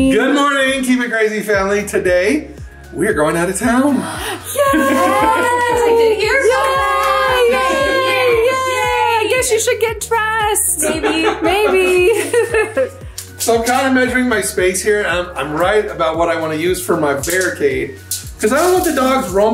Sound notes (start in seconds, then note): 4.0 gasp; 4.5 everyone cheers; 10.8 laughs